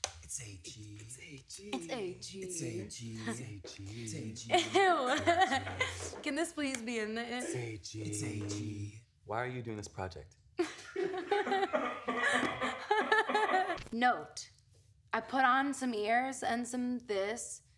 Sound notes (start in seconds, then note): 3.8 laughs; 10.6 laughter